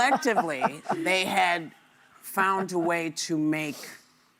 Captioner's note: laughter